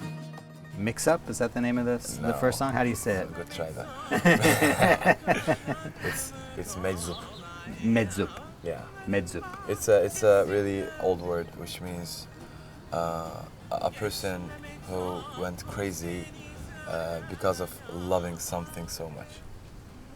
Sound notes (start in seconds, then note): 3.7 laughter